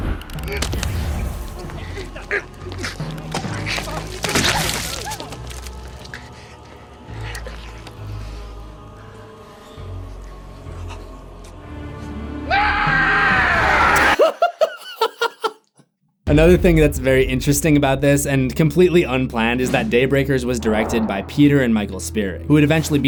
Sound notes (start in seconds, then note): 12.4 hilarious scream; 13.8 laughing